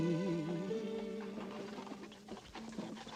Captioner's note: clip-clop